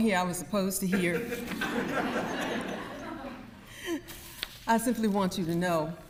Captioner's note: audience laughs